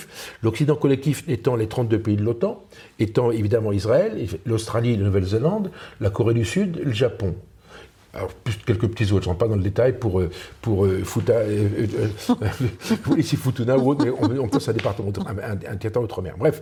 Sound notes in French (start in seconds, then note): 12.2 Rires